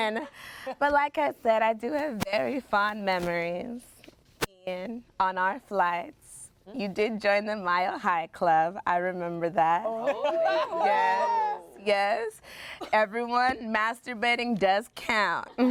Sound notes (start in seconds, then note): 10.0 everyone laughs; 15.5 everyone laughs